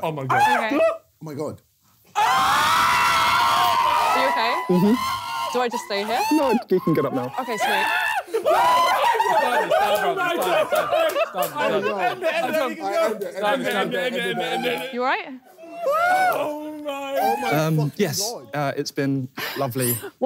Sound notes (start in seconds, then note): 0.1 screaming; 8.2 laughing and screaming